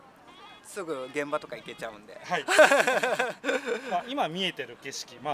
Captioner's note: laughs